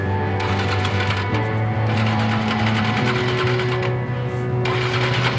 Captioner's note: motorcycle engine sputtering